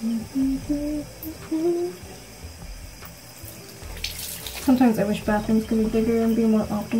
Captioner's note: humming intensifies